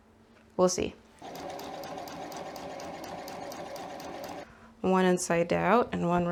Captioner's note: sewing machine noises